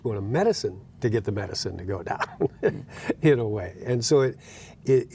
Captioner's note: laughing